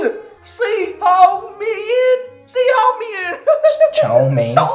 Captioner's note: laughing